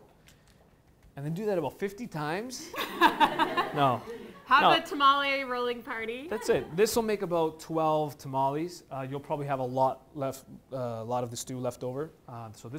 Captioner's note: laughing